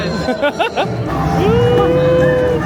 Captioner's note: laughing